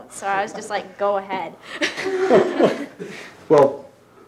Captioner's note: people laughing